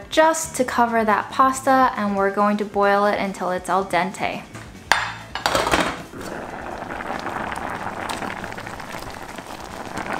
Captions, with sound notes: just to cover that pasta, and we're going to boil it until it's al dente. (spoon clinking) (lid thudding) (food mix bubbling)